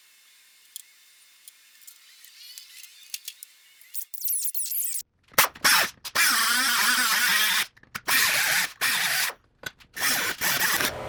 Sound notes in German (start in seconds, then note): 4.1 Maschine läuft